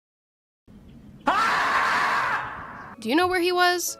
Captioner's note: screaming